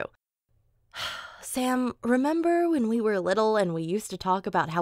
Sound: sighs

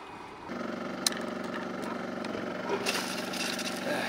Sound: engine rumbling

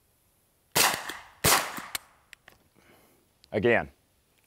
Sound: gun firing twice

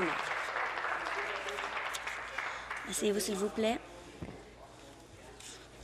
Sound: applause

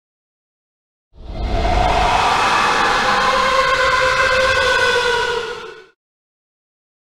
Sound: ghost scream

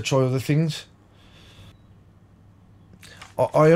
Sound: silence

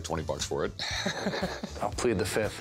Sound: laughs

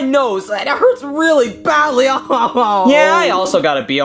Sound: wails

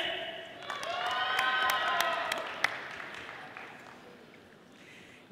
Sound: audience applauding

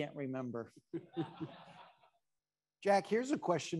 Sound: attendees laughing

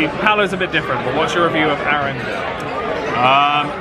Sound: crowd

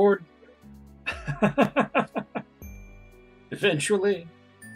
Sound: laughs

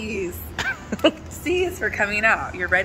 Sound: laughs

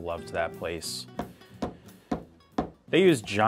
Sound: knife thudding

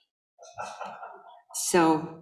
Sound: audience laughing

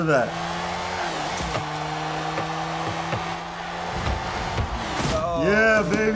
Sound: engines revving

